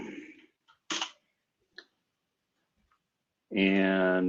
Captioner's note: typing